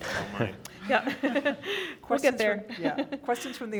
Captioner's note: laughing